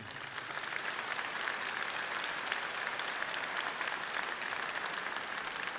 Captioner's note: audience clapping loudly